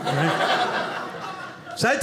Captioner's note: audience laughing